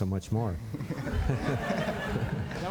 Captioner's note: laughter